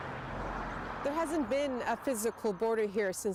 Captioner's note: a car drives